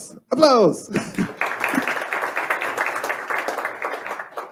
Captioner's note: crowd applauding